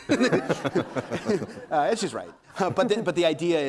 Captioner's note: audience laughing